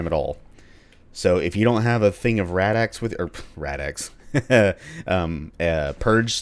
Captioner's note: chuckle